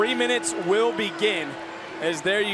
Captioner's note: cheers; bell rings